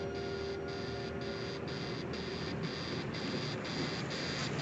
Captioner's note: buzzer sounds